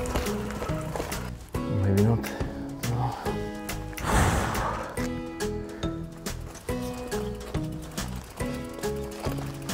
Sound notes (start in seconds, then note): 4.0 puffing